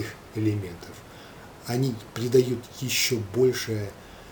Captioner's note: in Russian